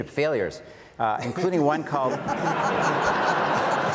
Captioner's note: audience laughs